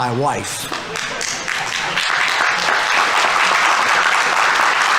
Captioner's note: audience applauding